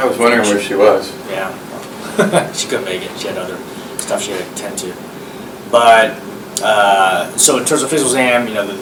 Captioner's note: laughs